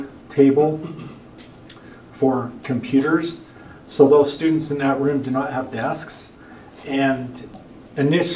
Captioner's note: clears throat